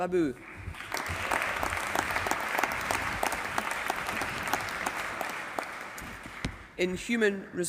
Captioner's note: applause